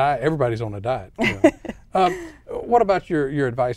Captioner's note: laughing